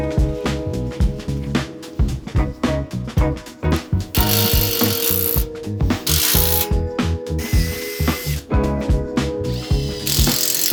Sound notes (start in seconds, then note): 4.1 drill whirring